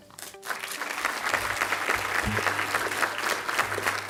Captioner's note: clapping